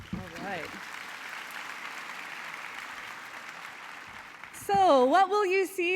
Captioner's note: applause